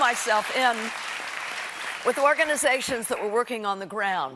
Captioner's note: applause